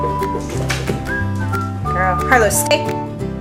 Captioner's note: ball smacking against wall